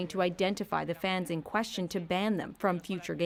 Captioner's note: speaking French